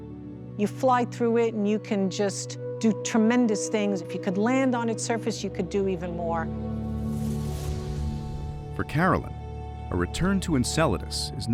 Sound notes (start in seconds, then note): 6.8 spacecraft whooshing through space